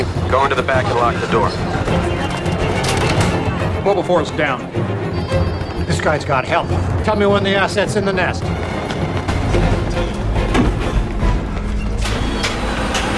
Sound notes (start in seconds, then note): 2.2 door closed and locked sound